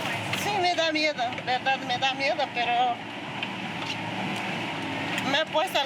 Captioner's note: speaking in foreign language